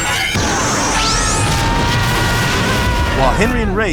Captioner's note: screaming